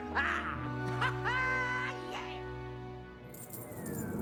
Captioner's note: laughing